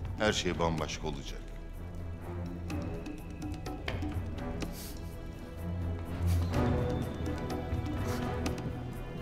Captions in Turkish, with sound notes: ...her şey bambaşka olacak. (El vurma sesi)